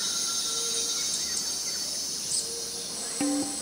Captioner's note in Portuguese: Ruídos da natureza